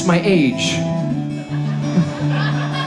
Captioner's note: audience laughs